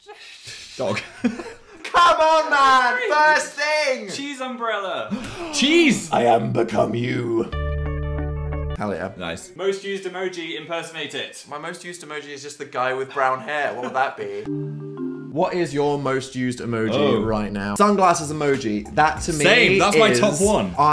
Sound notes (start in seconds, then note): 5.1 gasp; 6.1 quirky music; 13.5 laughs; 14.4 quirky music